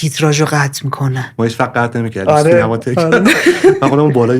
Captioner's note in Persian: خنده